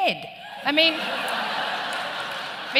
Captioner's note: laughter